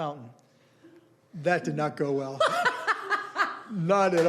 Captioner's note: laughing